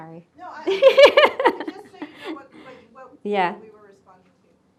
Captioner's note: laughing